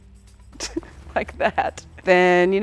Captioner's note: laughing